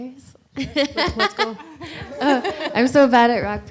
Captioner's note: laughs